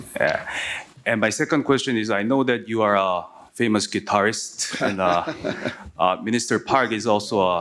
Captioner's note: laughter